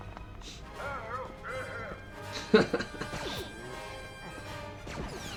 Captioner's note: laughter